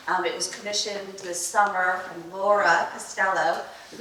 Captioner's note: none